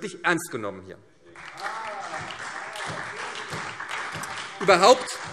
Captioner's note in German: Beifall SPD und Freie Demokraten